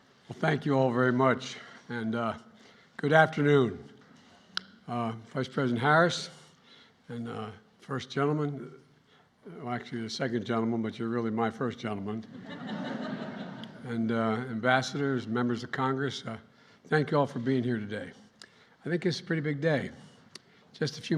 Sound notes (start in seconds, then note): 12.2 laughter